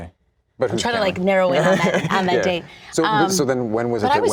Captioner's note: laughs